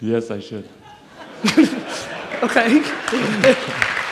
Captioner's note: audience laughs and applauds